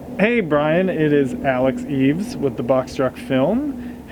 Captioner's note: none